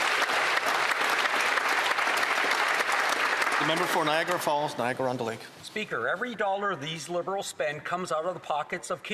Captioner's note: some Applause